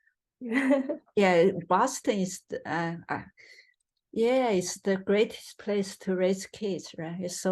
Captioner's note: laughs